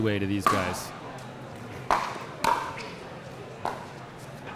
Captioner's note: ball clacking